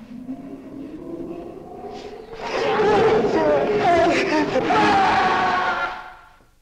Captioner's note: creature growling